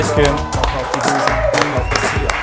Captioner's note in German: Jubel